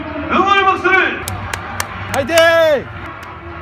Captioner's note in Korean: 짝짝짝